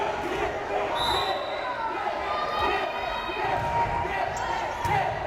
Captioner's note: whistle blares